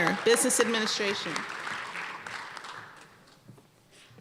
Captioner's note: applause